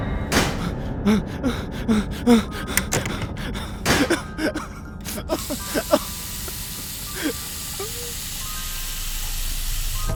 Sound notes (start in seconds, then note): 0.2 man panting and crying